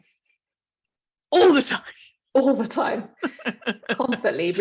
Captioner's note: laughs